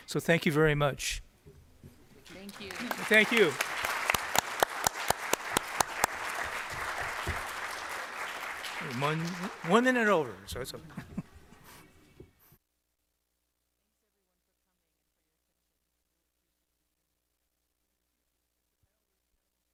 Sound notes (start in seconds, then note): 4.3 applause